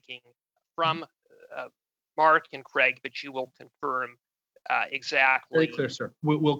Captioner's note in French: voix de l'interprète